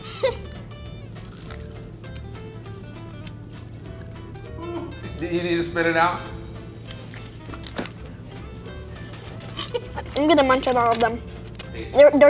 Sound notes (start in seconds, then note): 0.0 snickers; 9.5 chuckles